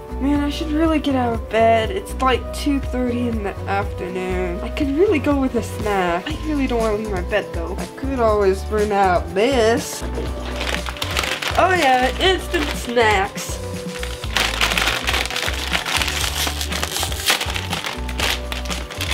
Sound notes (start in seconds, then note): 14.4 crinkling noises